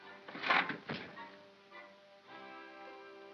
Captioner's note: soft whimsical music; crunch; soft whimsical music